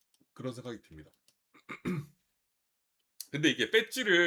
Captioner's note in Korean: 목을 가다듬음